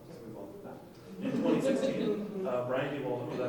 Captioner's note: laughing